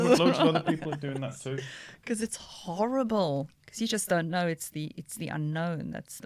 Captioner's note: laughter